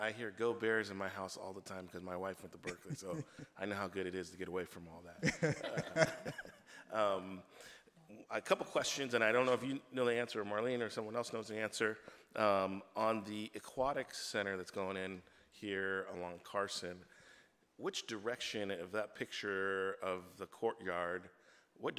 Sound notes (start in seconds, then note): 5.2 laughter